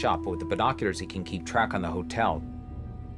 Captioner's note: none